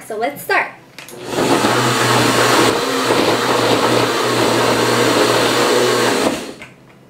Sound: blender whirring

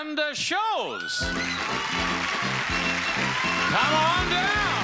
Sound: audience applauds

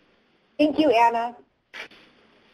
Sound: pat

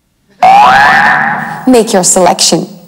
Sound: alarm rings

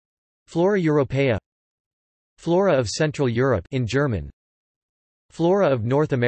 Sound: in German

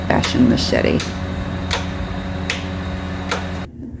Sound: chopping

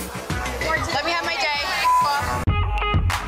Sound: beep

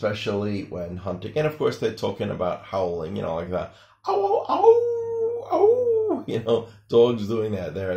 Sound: howling sounds

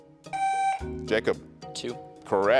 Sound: buzzer beeps

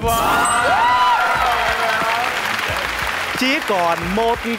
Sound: yelling and Clapping

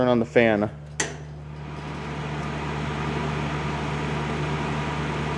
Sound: fan humming

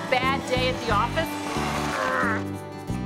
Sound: grunting

